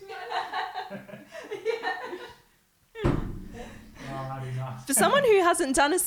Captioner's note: laughing